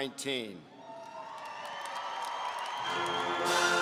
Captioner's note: audience cheering